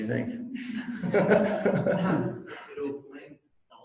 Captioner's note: audience laughs